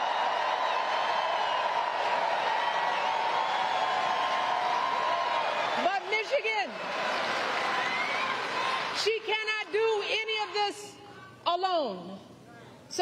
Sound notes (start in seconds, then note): 2.0 applause